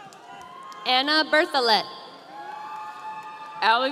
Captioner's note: audience cheering